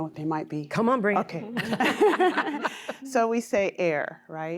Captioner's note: laughter